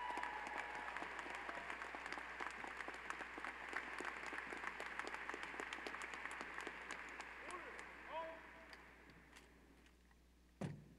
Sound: applause

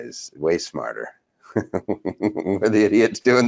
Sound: laughs

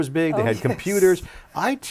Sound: laughs

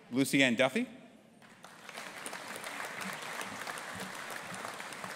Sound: audience applauding

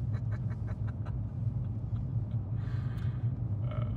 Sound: person laughing

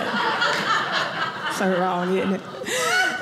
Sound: audience laughing

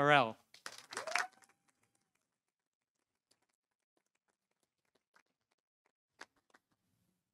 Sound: audience applauding; audience cheering

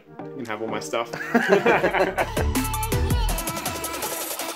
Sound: laughter

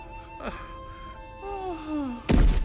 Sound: moans

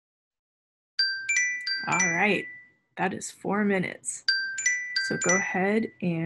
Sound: alarm Rings

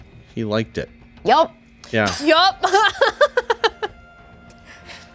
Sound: laughs

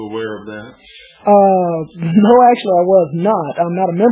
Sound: laughs

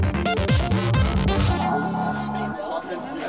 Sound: crowd talking

